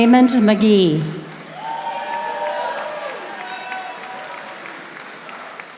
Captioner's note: audience applauding